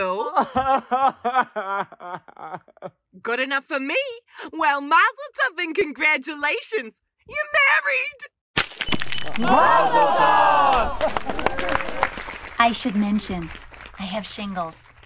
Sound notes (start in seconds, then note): 8.5 glass breaks; 9.4 cheers and applause